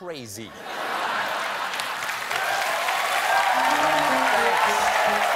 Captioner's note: laughter; applause